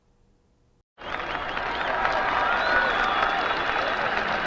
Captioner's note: crowd applauds